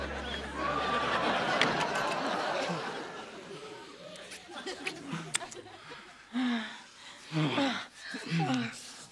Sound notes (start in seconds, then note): 6.3 moans